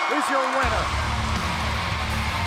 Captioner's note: bell